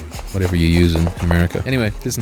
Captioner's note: laughing